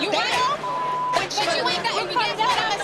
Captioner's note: beep